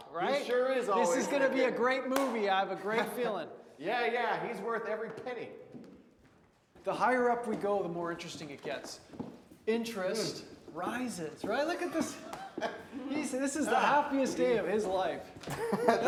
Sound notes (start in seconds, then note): 2.1 Wes claps; 11.7 Wes laughs